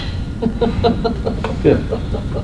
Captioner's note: laughter